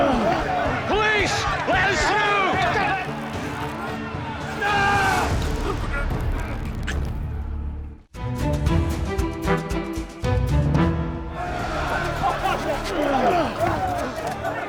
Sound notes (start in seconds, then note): 0.0 crowd clamoring; 2.6 crowd clamoring; 5.6 struggling; 11.2 crowd clamoring